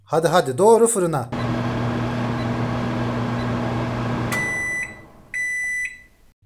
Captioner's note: oven Voice